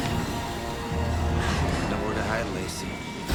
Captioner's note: dramatic music crescendos; gasps